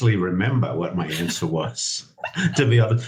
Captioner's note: both chuckling